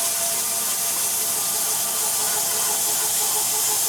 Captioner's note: machine cutting